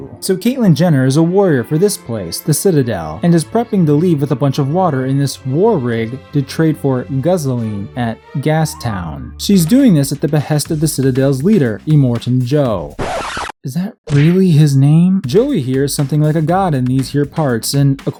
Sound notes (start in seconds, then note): 12.1 record scratch; 14.1 smack!